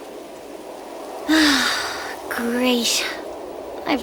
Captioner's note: sigh